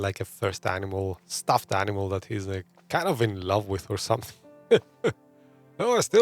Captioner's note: laughs